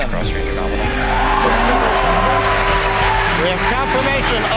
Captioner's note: crowd cheering